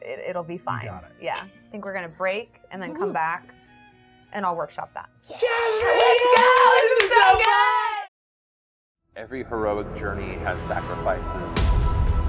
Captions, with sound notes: It'll be fine. I think we're gonna break and then come back and I'll workshop that. (participants cheering) - Every heroic journey has sacrifices.